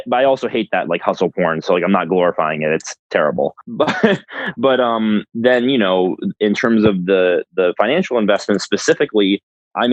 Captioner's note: laughs